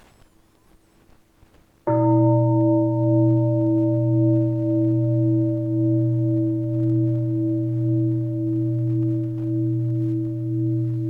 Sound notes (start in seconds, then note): 1.8 deep bell sounds